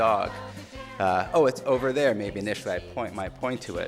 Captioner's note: speaking quickly